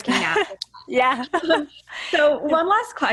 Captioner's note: laughing